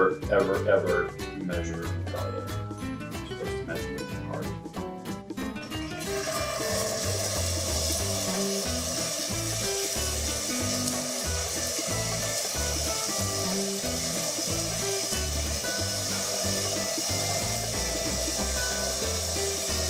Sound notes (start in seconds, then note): 5.5 sizzling